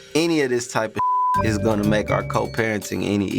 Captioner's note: beep